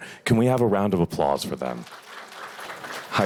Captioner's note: applause